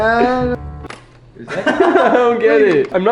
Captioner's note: laughs